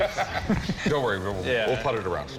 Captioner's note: laughs